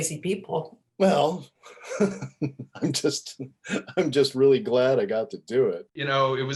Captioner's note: laughing